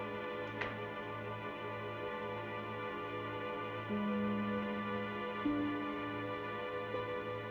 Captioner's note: poignant music continues; door clicking